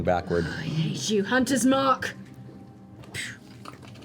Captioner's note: sighs